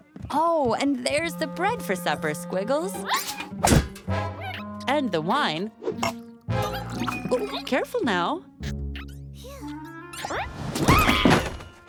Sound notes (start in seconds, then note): 8.9 squeaking; 10.8 screams